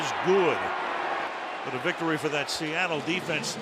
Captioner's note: booing